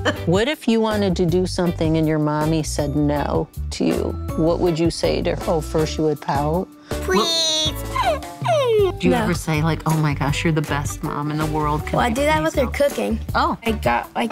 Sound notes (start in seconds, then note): 7.4 whimpers